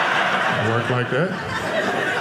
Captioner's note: audience laughing